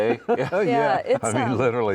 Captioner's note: chuckling